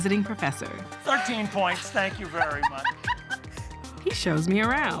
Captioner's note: laughs